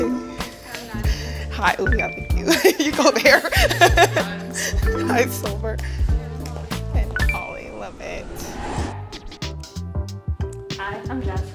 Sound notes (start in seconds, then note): 4.2 chuckles; 9.1 ambient music